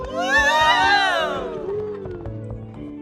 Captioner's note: cheering